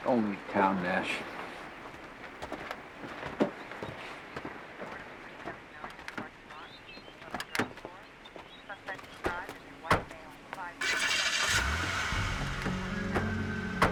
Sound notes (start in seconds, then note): 5.4 chatter over police radio; 9.0 woman On Radio; 10.8 cars revving